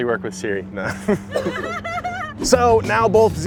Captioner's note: audience laughing